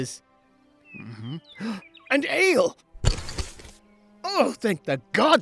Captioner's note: gasp